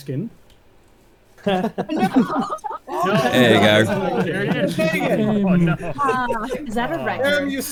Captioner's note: laughing